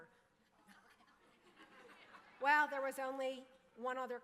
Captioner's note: audience laughing